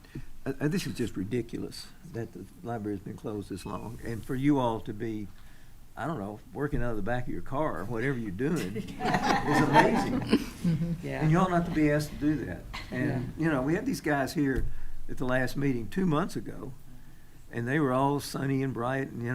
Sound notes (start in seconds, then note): 8.5 attendees laughing